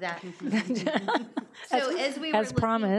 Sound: people laughing

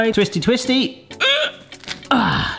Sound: grunting

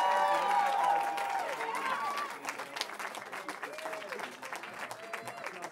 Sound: cheering

